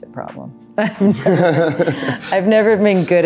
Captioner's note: both laughing